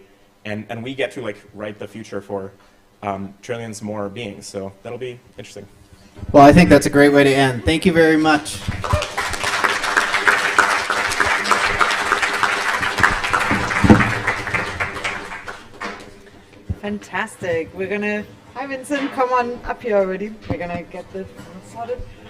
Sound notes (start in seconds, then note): 8.4 applause